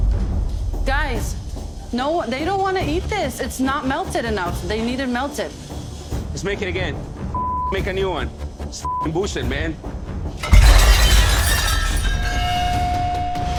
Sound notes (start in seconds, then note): 10.4 plate smashes